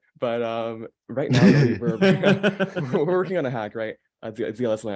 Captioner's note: everyone laughing